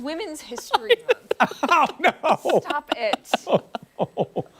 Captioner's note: laughter